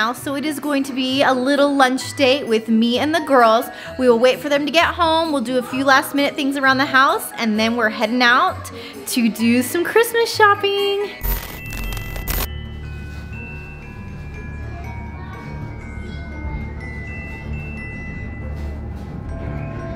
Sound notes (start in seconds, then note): 11.2 ominous Christmas music; 14.5 faint kids chattering